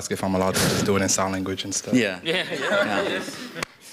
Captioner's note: laughter